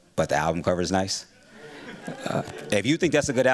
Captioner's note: laughter